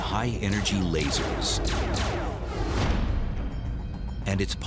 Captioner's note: laser weapon sounds